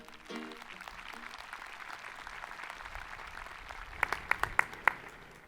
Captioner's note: people clapping